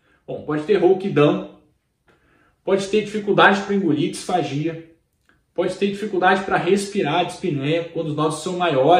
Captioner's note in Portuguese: dispneia